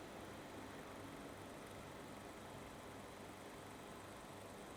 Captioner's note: film reel clicking